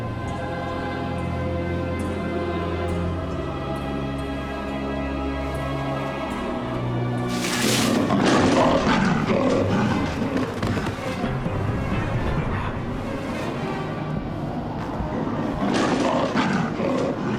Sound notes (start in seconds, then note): 7.2 brush rustling; 9.1 growling; 15.0 snarling